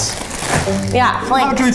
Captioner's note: bags rustling